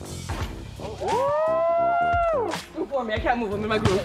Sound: quirky music; crew cheers

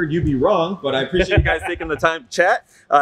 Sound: crowd laughing

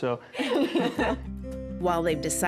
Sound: women laugh

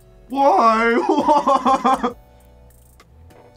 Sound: laughs

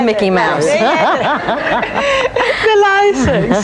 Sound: all laugh

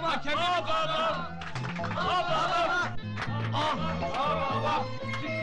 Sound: the cheers start with music in the background

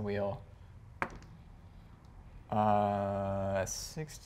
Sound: die taps table

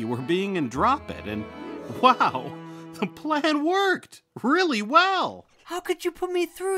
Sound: chuckling

